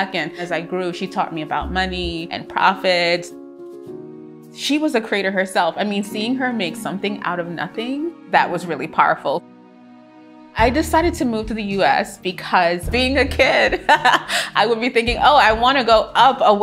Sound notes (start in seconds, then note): 13.7 laughs joyfully